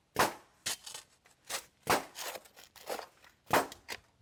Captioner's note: nail gun shooting; shovel scraping